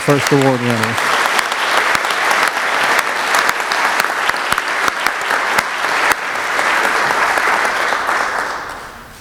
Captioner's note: applause